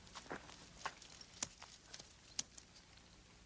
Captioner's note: lips smacking